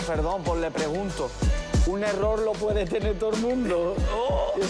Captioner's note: laughs